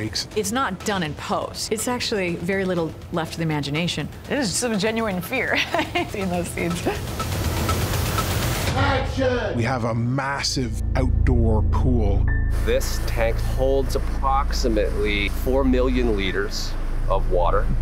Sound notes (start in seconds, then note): 5.5 laughs